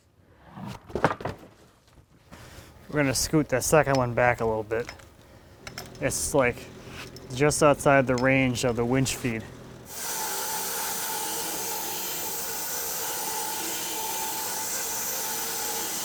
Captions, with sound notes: (wood clunking) We're going to scoot this second one back a little bit. (engine roaring) It's like just outside the range of the winch feed. (saw whizzing)